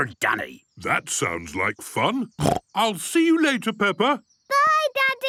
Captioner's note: snorting